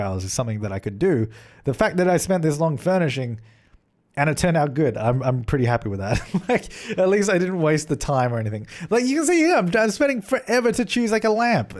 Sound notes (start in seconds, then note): 6.1 giggling